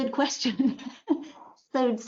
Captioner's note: chuckles